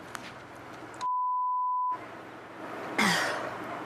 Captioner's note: breathes sharply